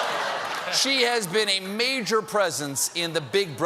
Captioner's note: laughter